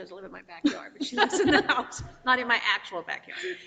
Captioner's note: board members giggling